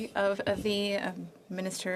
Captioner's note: speaking French